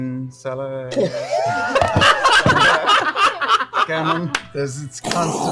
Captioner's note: laughter